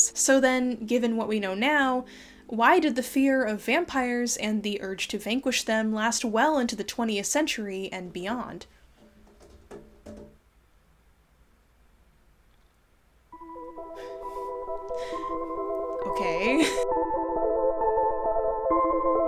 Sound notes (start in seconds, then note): 9.0 something clattering mysteriously; 13.3 eerie music